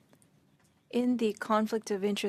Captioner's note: speaking French